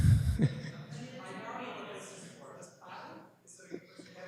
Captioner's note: chuckles